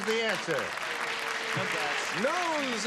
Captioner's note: clapping